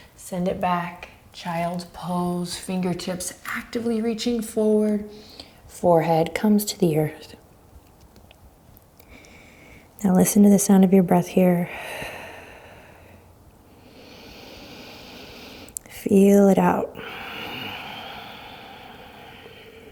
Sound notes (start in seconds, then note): 11.9 deep breaths; 17.0 deep breaths